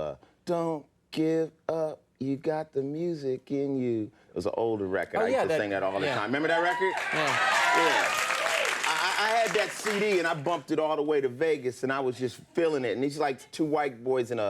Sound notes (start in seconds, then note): 8.1 audience cheering